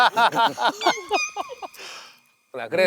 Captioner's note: laughing